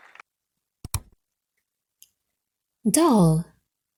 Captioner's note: button clicks